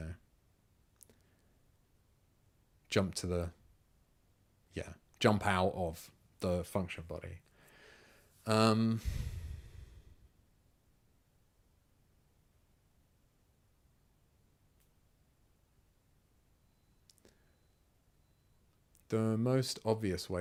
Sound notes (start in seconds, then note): 10.1 silence